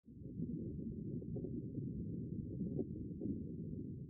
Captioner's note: underwater